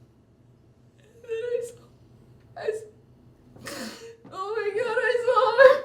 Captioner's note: inhalando